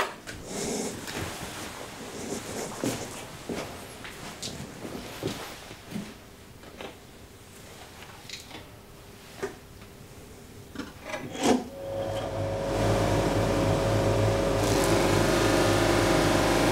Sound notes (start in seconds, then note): 13.7 motor whirring; 14.5 soft whirring noise